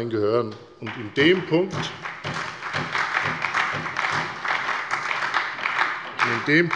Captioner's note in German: Beifall bei der FDP